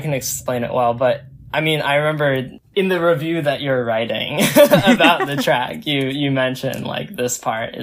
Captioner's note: both laugh